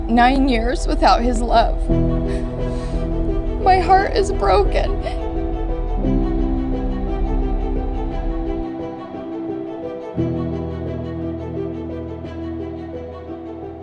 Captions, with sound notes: nine years without his love. My heart is broken (sobs). (dramatic music)